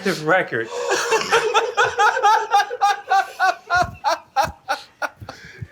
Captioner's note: laughter